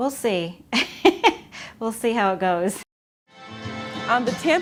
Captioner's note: chuckles